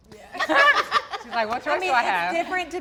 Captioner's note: laughs